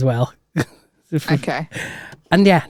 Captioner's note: laughs